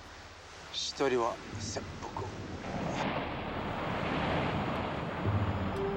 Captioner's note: speaking foreign language